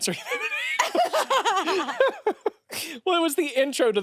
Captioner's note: everyone laughs